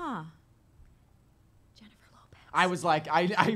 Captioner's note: whispers